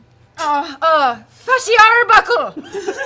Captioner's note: Irish accent; laughter